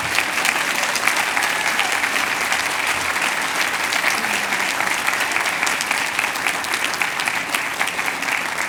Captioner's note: cheers and applause